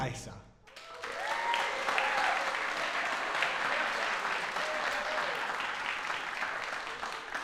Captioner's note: applause